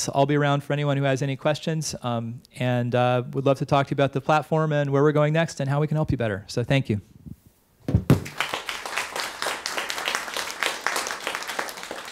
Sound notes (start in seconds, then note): 8.1 clapping